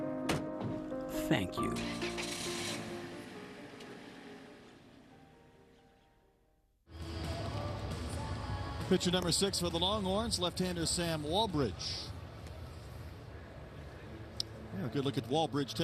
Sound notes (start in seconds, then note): 0.5 trunk door shuts down; 1.7 car engine starts, music fades